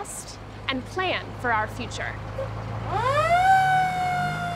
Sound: truck rumbling

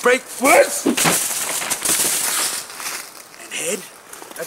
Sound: wood cracking

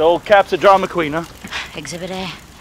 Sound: scoffs; exhales sharply

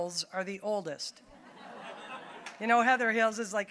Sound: audience laughing

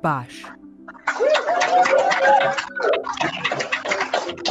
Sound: cheering

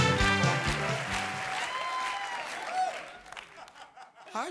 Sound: cheers and applause

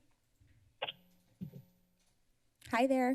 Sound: feedback sound on phone

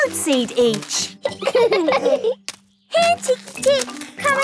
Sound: laughing

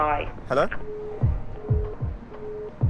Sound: phone hangs up

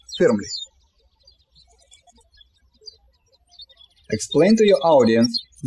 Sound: birds chirping

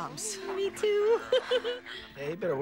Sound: nervous giggling

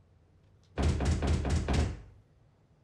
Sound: banging on door

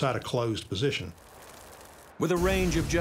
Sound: fire crackling

